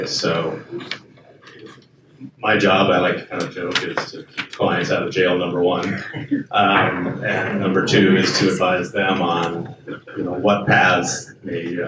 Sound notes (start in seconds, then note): 5.7 panelist laughs